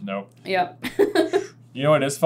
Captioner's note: laughs